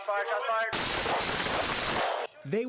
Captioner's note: gunshots